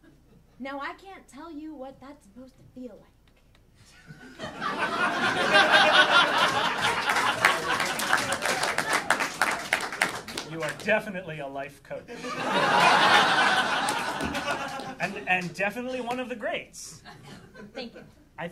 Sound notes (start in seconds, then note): 4.2 audience laughing and applauding; 12.1 audience laughing